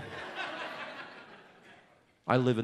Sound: audience laughs

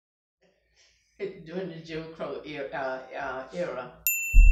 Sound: laughing; beep

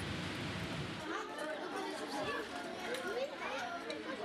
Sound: cooking sounds; indistinct chatter

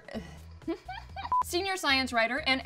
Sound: beep

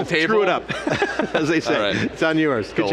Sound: laugh

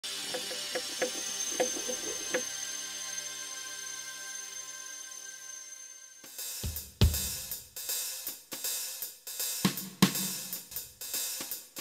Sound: sound effects

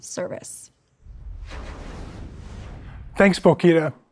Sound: graphic whooshes

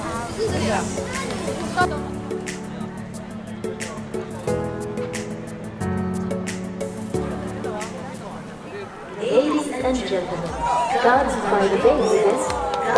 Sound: laidback music; loudspeaker announcement

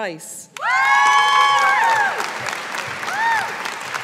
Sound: audience applauding

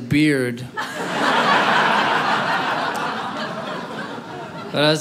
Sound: audience laughing

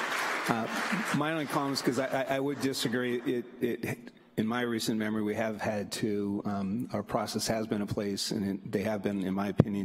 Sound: applause

